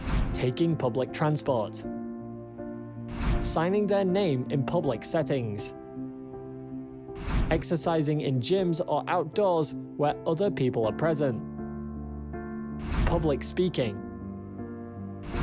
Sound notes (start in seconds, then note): 0.0 screen swishes; 3.1 screen swishes; 7.2 screen swishes; 12.8 screen swishes